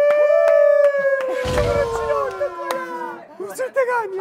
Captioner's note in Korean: 큰 박수